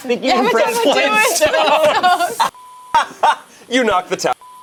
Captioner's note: group laughing